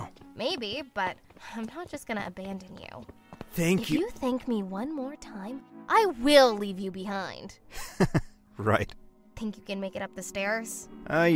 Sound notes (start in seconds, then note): 7.7 weak laugh